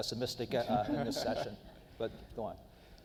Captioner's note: laughing